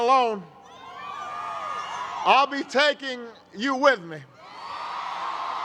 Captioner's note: cheers